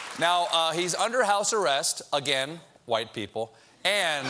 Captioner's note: applause